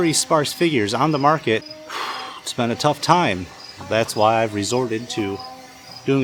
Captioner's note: exhale